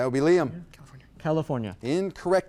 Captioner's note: whispers